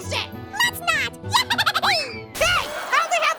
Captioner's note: Marshmallow cheers